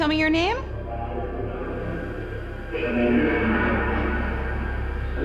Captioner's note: voice echoing